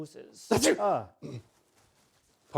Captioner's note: sneeze